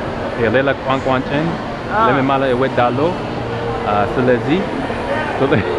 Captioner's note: amharic